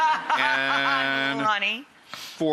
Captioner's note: laughing